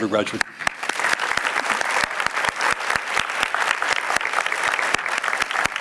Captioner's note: applause